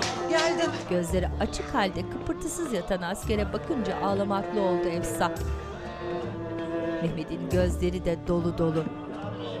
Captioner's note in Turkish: Müzik - Hüzünlü; İnleme sesleri